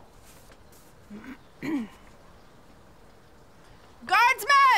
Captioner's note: clears throat